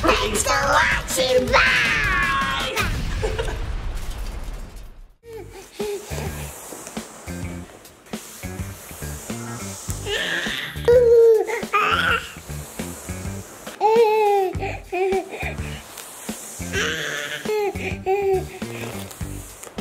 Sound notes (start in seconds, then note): 2.5 laughing; 5.8 upbeat music; 10.8 lava monster giggling